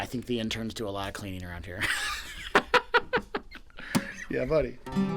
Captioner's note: laughs